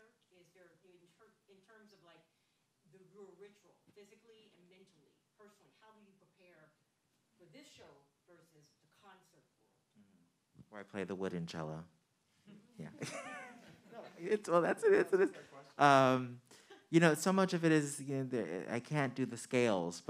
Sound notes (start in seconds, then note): 14.2 man chuckling